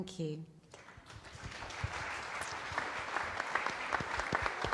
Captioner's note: loud applause